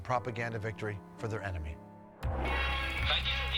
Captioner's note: German dialogue